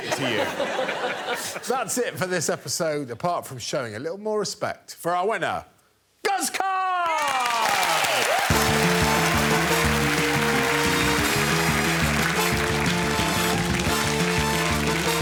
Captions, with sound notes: get your friend to chop their bottom off and feed it to you. That's it for this episode, apart from showing a little more respect for our winner, -Guz Khan. -[cheering and applause] [closing theme music playing]